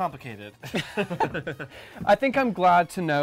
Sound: laughing

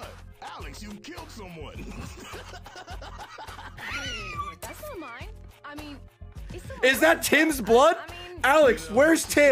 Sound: laughs

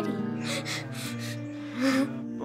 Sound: laughs; fake cries

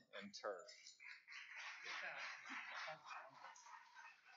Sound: applause

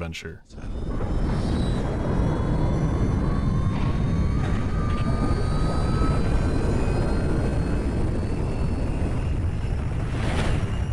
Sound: roaring of jet engines

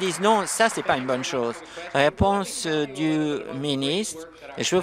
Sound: applause

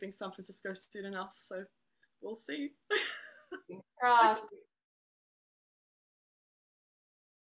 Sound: laughter

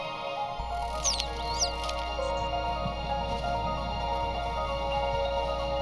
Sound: twittering

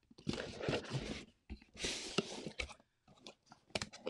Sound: packaging rustles

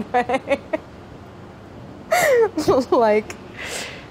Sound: laughs

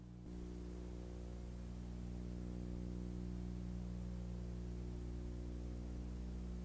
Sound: two minutes of white noise

